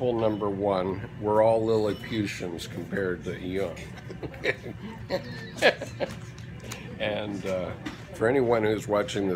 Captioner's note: chuckle